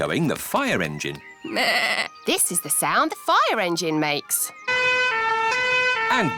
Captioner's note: bleats; siren blaring